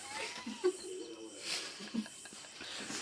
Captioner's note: laughter